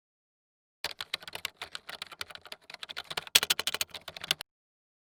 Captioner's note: keyboard clattering